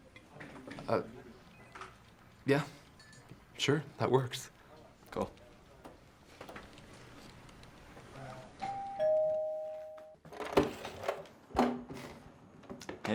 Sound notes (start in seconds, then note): 8.6 doorbell rings